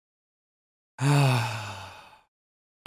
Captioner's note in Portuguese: respiração profunda